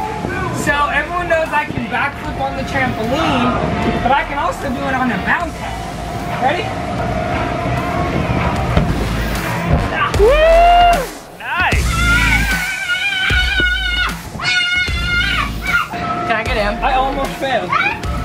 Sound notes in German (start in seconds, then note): 10.2 Jubel der Menge; 11.8 Kinderkreischen